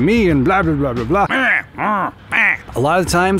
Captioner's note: grunting